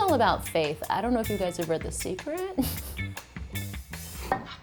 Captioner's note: laughs